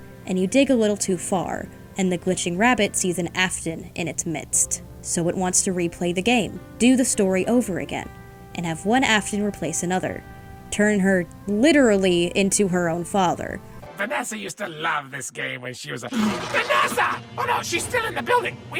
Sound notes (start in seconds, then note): 16.1 gasps